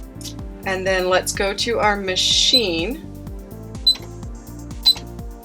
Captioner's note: machine beeps